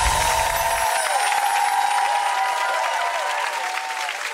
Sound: bells chiming; audience cheering

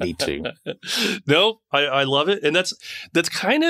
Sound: laughing

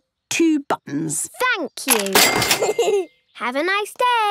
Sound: giggles

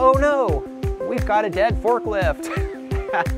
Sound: laughs

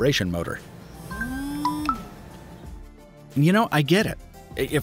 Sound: phone vibrates

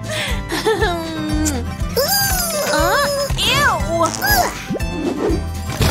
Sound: farts

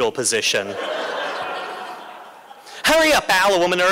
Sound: laughter

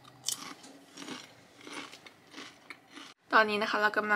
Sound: <i>silence</i>

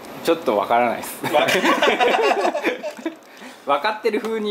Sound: laughs

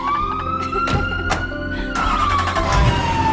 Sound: fire truck siren wails

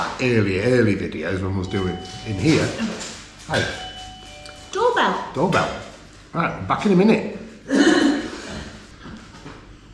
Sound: doorbell chime

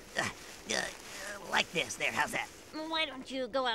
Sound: grunts

